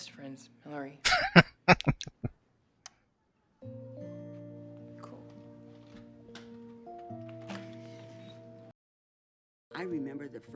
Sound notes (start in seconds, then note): 1.0 laughing